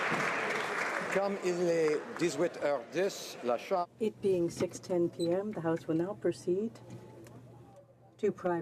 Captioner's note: applause